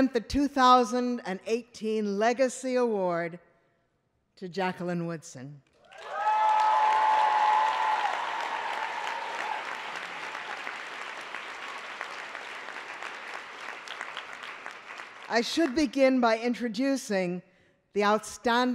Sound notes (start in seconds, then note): 5.8 applause